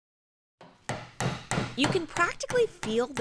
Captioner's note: hammering noise